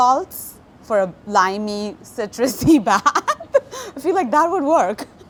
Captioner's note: laughs